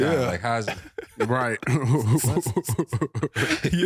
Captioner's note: laughing